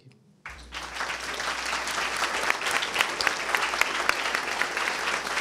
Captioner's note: attendees applauding